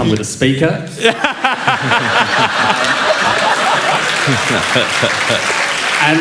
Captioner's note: laughter